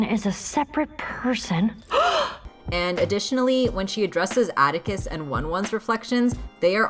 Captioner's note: gasps